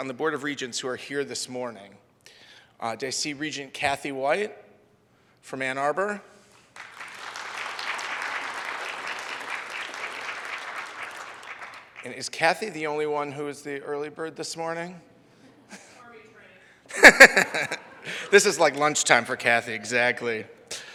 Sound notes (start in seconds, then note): 6.7 audience applauds; 16.5 audience speaking faintly; 16.9 audience laughs